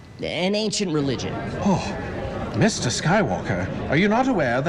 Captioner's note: crowd grumbling